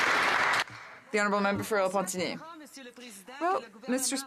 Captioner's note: some Applause